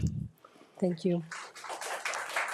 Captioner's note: audience applauding